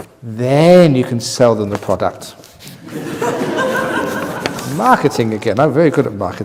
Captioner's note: laughter